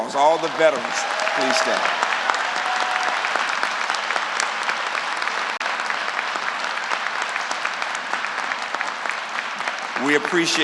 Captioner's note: applause